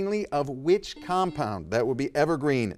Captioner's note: buzzer dings